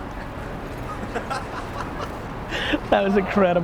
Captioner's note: laughing